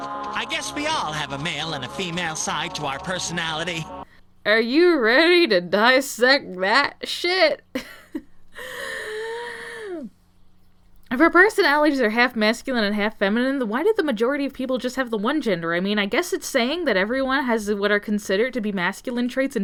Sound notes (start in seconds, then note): 8.5 deep breath